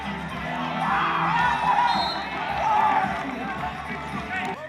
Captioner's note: applause